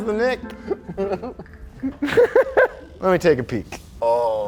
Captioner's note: both laughs